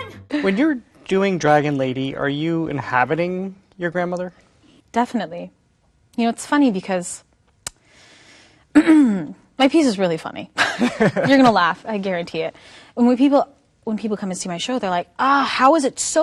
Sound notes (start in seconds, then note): 8.7 clears throat; 10.6 laughs